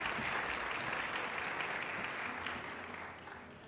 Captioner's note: audience applauding